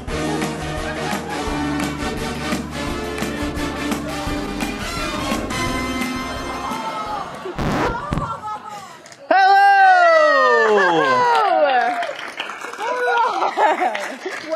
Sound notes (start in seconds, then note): 4.9 audience groans in disgust; 7.5 record scratch; 10.6 audience applauds